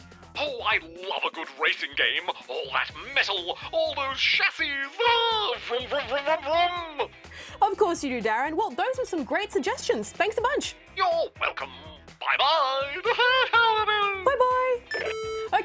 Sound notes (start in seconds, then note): 12.9 laughs